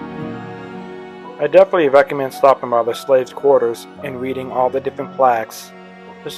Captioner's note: voiceover